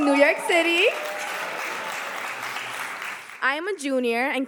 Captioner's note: audience applauding